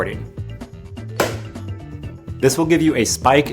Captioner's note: hand clapping